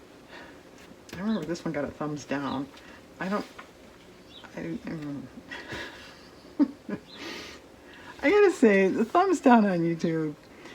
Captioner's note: laughs